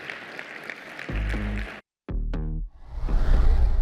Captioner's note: applause